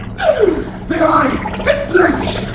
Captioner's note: gasp!